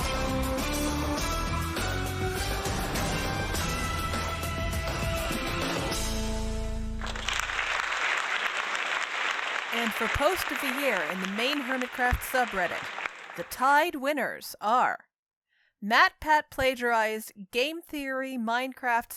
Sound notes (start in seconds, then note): 0.2 music swells; 7.0 applause